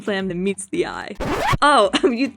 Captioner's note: record scratch